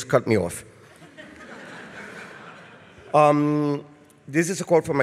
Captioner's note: laughter from audience